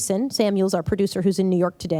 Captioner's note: none